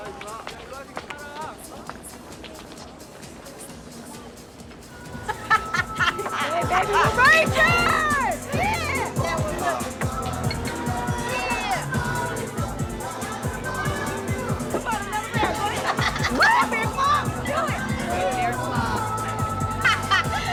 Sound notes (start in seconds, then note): 4.3 laughing; 19.5 laughing